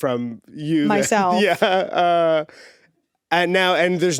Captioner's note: laughs